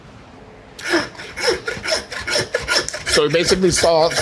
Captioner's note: saw whizzing